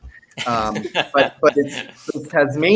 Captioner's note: laughs